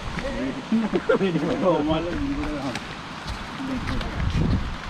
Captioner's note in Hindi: हँसते हुए